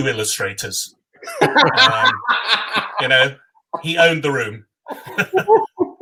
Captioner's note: laugh; laugh